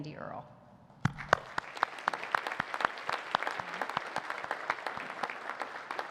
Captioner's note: audience applauding